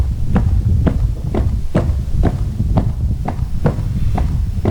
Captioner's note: footsteps